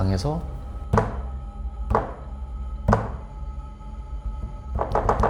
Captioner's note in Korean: 쿵 쿵 쿵